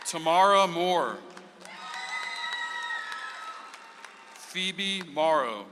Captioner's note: audience applauds